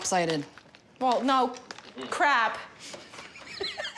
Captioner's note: laughs